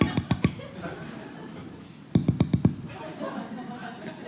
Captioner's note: knocking on window sound